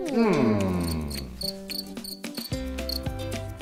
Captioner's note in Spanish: sonido de grillos